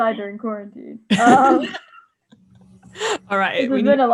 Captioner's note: laughs